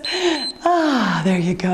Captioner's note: timer beeps